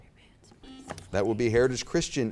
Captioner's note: buzzer beeps